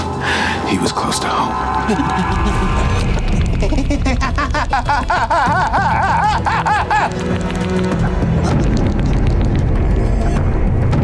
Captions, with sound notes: He was close to home. (Chuck moaning) (dramatic music continues)